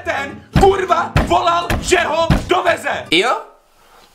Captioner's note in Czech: mlácení do stolu